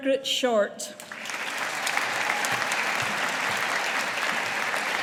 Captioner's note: audience applauding